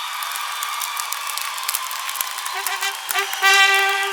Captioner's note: cheers and applause